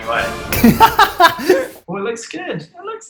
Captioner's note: laughs